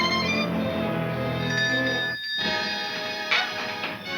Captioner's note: bell ringing